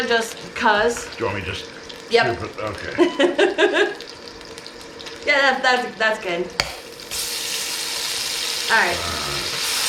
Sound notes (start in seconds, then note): 2.8 giggling; 6.8 butter sizzling